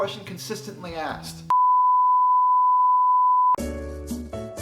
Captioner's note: tooooooooone